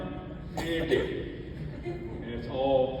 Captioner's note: audience laughs